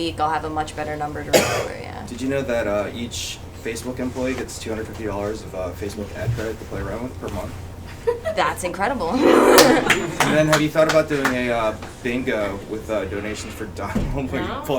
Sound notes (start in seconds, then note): 9.0 laughs